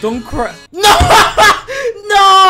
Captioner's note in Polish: śmiech